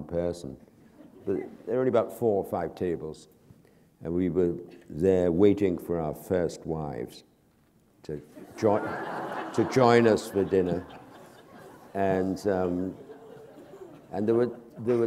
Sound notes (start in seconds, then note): 0.8 chuckle; 8.3 laughter